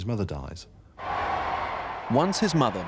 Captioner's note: audience cheering